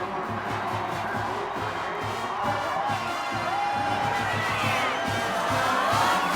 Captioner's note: pa announcement